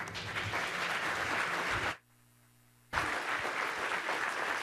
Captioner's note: applause